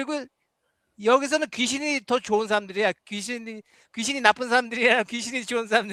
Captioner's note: non-english speech